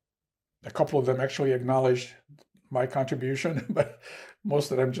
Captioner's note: laughing